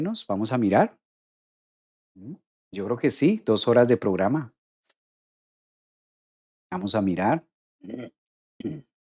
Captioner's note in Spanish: carraspeo